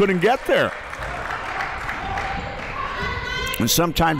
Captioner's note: clapping